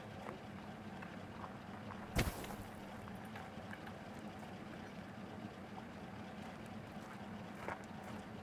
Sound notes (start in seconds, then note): 2.1 bag thumping